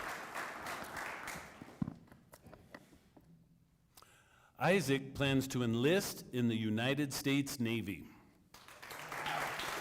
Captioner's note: applause